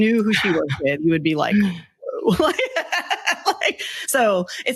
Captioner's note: laughs